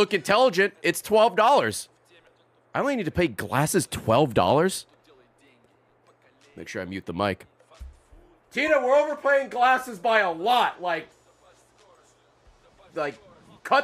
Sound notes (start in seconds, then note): none